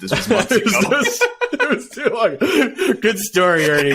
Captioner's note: laughing